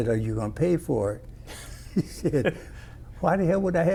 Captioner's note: laughter